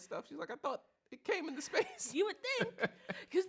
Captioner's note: laughs